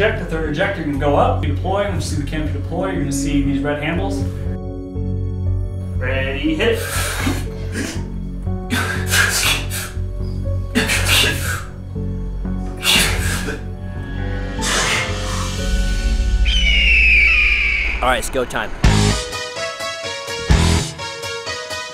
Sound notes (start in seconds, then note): 5.2 melancholy music; 6.7 men breath quickly; 16.4 crows cawing; 18.8 upbeat music